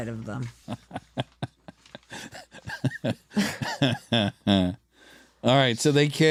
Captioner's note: laughter